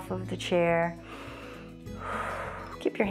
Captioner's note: inhales and exhales